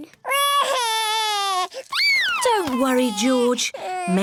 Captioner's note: cries